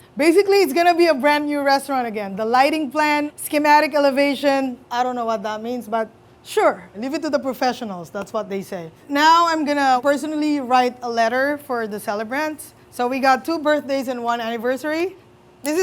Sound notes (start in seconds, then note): none